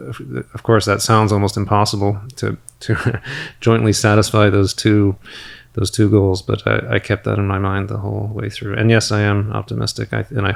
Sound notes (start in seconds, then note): 2.8 chuckles